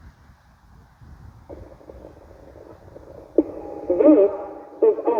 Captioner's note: slight grumbling